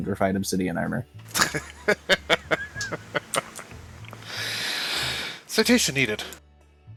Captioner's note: laughter